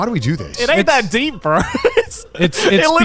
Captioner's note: laughs